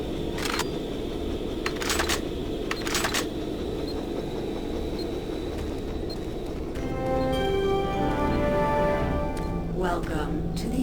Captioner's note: beeping